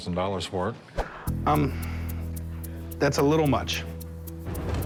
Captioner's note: sighs